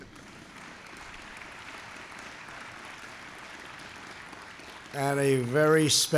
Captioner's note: applause